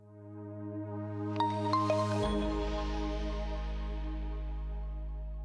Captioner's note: logo chiming